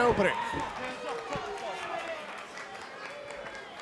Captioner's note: crowd cheering